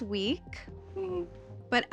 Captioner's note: whimpers